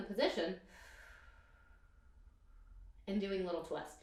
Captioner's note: exhales breath